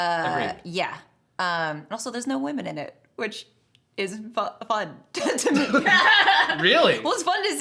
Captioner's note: laughter